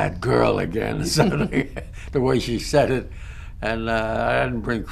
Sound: laughter

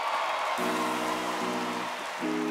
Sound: applause

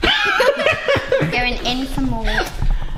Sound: laughing

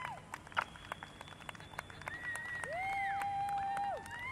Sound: applause

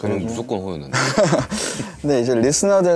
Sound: haha

